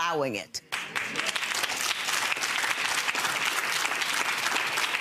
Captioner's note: audience applauding